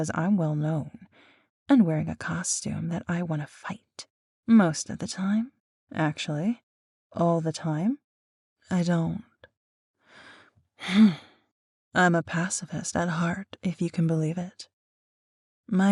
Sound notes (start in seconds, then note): 10.8 sigh